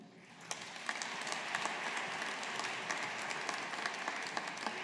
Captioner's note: audience applauding